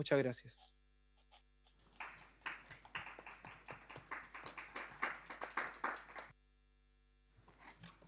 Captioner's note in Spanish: Aplausos